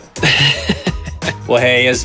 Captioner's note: laughing